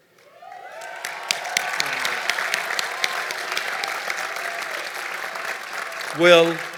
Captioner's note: applause